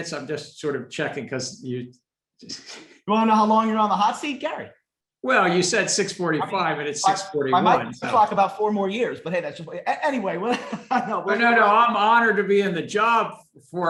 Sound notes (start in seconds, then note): 2.6 laughs; 10.4 laughs